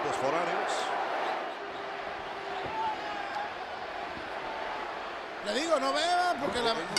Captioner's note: applause